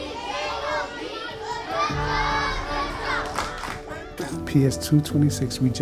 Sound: children chanting and clapping

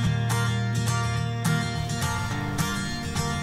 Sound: water spraying

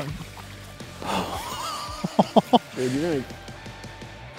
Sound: laughs

